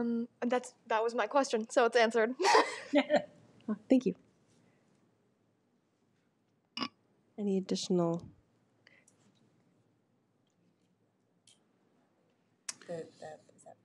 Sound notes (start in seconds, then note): 2.4 chuckles; 8.9 whisper